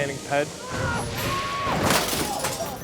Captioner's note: Mr. Inferno yells; bike clatters